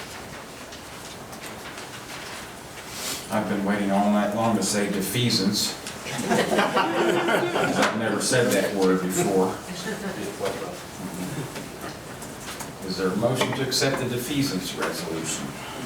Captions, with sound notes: I've been waiting all night long to say defeasance. (audience laughing) I never said that word before. Is there motion to accept the defeasance resolution?